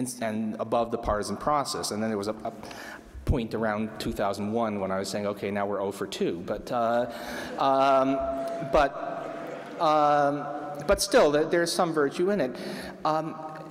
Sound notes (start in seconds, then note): 7.9 laughter